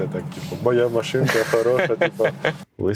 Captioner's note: laughs